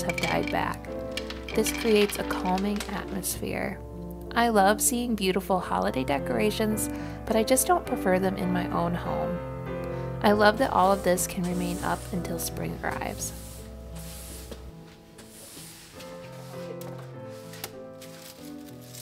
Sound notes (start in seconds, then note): 13.5 sweeping wood floor